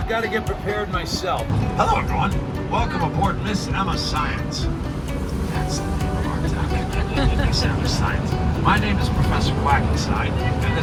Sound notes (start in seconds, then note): 5.5 passengers laughing